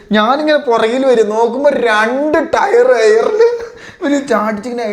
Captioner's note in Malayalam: പൊട്ടിച്ചിരി